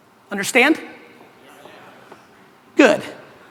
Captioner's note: crowd murmurs